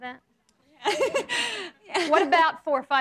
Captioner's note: laughs